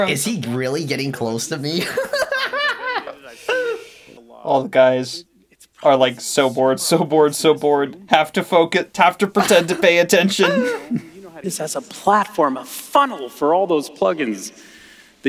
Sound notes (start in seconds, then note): 1.8 laughing in Steve Jobs copycat